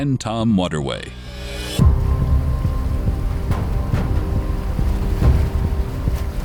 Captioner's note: dramatic orchestral music; water flowing